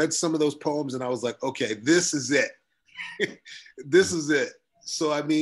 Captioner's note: chuckles